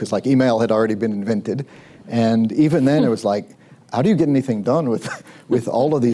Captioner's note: laughs